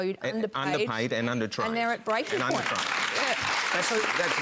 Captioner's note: applause